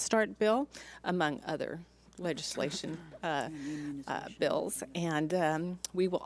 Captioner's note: woman speaks off mic